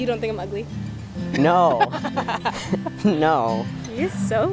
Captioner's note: laughing